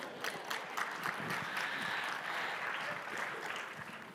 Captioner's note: audience applauding